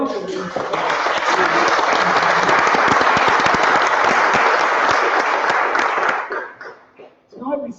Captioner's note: applause